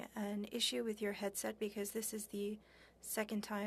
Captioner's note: speaking french